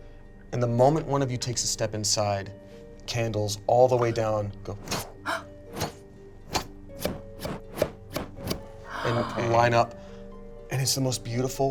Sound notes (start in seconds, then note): 4.8 air whooshing